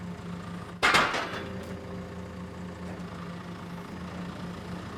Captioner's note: engine running calmly; wood falling